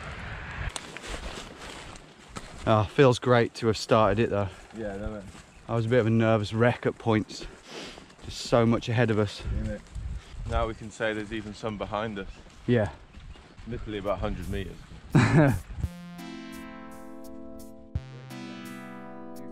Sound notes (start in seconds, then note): 15.1 laughing